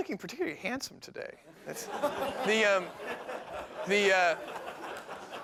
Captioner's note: laughter